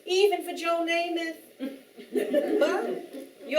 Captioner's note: audience Giggling